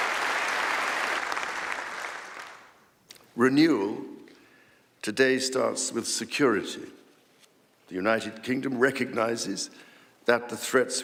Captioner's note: applause